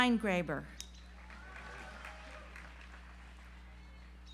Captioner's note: audience applauds